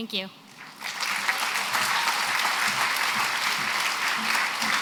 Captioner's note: applause